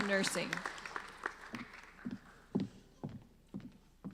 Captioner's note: applauding